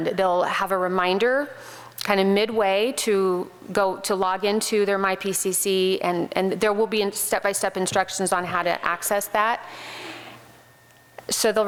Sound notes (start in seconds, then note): none